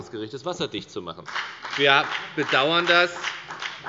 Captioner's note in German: Beifall bei der FDP